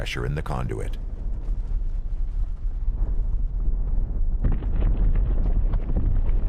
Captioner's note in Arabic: صوت انفجار